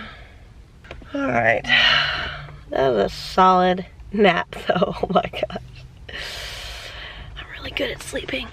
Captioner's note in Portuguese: risos